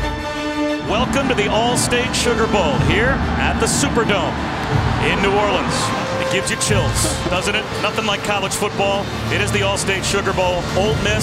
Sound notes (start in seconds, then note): 1.0 voiceover